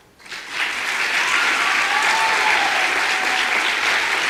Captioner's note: audience applause